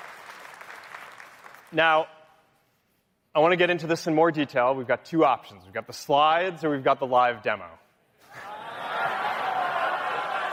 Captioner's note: applause